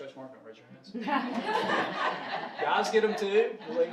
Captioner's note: audience laughing